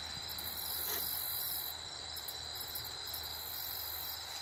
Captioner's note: crickets chirping